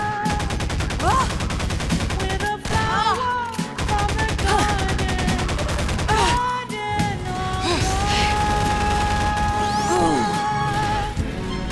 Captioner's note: moaning